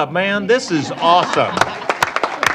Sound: applause

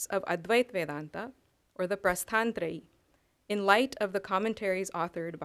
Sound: non-english

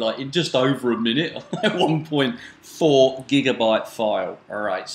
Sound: laughs

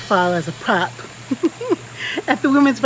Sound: laughs

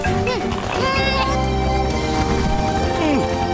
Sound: grunting

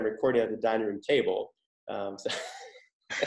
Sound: laughs

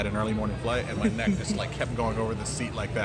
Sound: laughs

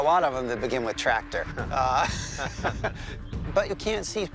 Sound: both laugh

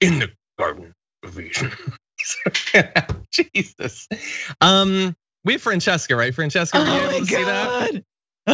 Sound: laugh

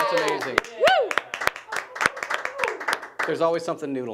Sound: applauding

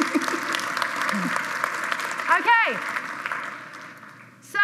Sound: applause

